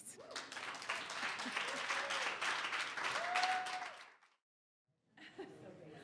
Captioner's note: audience cheers and applause